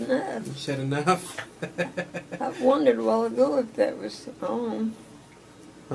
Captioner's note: laughs